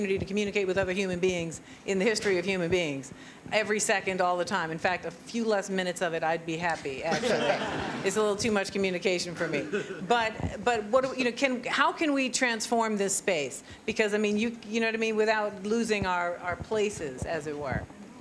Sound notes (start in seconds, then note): 9.7 laughter